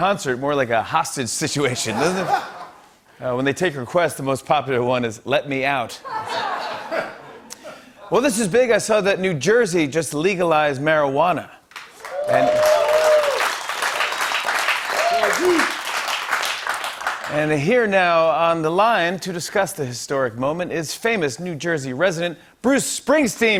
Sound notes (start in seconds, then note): 11.8 cheers and applause